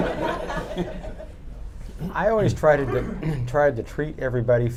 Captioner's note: laughter; clears throat